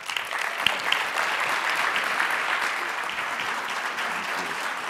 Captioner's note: audience applauding